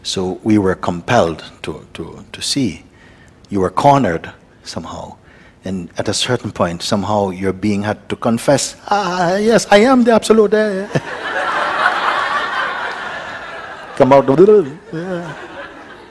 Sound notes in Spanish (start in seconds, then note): 10.9 Todos se ríen